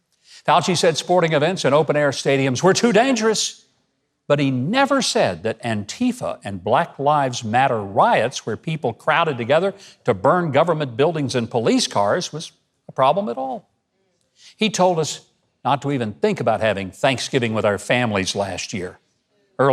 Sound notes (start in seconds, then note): none